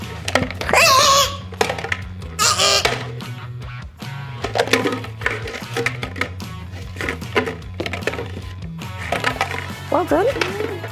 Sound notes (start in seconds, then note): 0.7 wrong answer noises